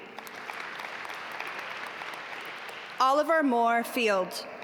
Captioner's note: audience applaud